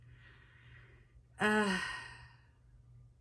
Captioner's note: sighs